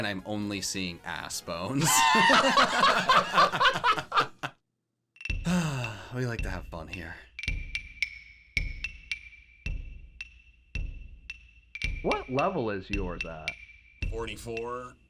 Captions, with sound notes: I'm only assBones. (laughing) We like to have fun here. (playful music) What level is yours at? - 44.